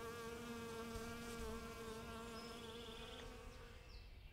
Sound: bee buzzes

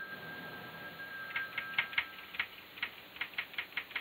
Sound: phone ringing and typing noise

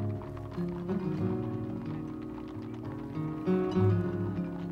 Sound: horse hooves clopping

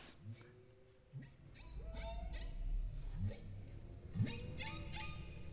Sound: humpback whales singing

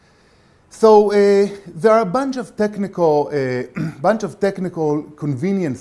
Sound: cough

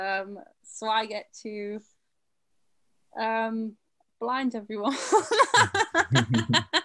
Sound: chuckles; laughs

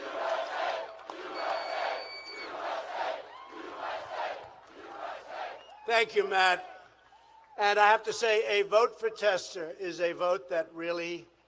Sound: chantin "u"

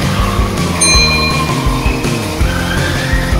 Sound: ding

